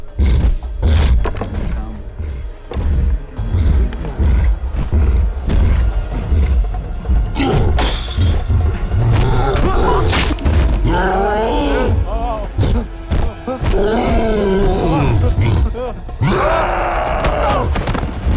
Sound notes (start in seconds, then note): 0.0 suspenseful music playing; 0.0 cyclops growling; 7.7 pot smashes; 10.8 roars; 13.1 men whimpering; 13.1 roaring